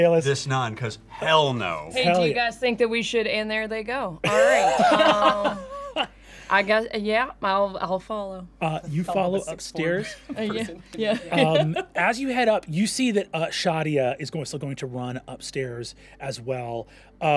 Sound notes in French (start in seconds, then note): 4.3 rire